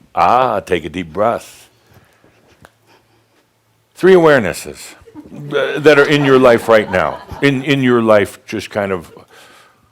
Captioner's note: laughter